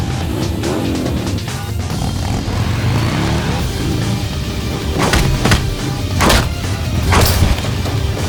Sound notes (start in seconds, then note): 0.3 motorbike engine revving; 4.9 blows thudding